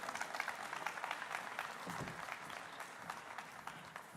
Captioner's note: applause